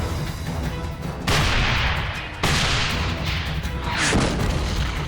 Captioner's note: tank turrets firing; shell exploding